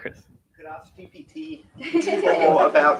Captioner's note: laughter